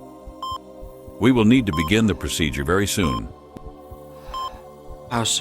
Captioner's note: heavy breathing